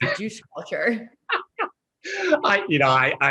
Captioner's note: both laughing